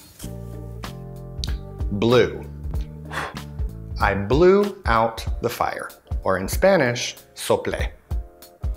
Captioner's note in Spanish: soplar